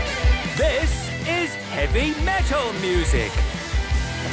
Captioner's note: shouting